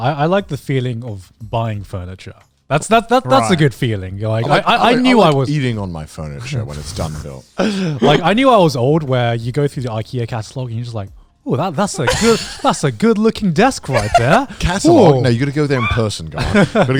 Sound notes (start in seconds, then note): 7.7 chuckles; 13.8 laughs